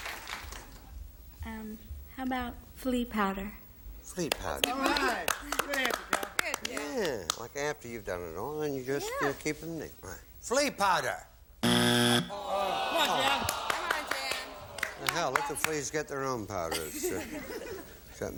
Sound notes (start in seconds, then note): 11.6 buzzer